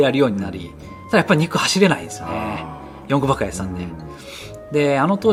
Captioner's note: laughs